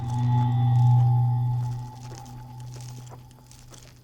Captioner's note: buzzing sound